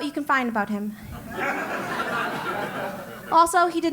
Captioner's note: laugh